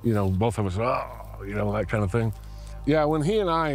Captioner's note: imitates groaning